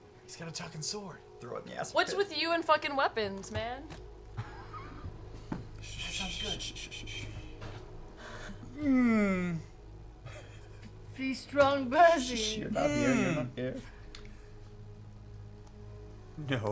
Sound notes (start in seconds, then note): 8.2 whimpers